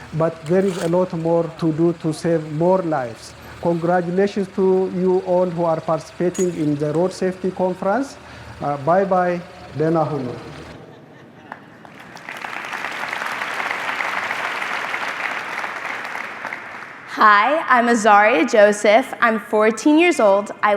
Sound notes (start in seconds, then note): 9.8 speaking foreign language; 11.4 audience applauding